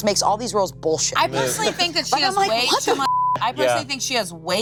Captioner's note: beep